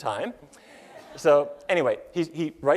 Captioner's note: laughter